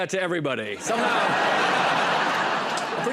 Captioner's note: laughter